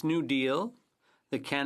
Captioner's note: speaking French